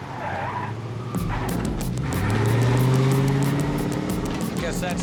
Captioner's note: tires screeching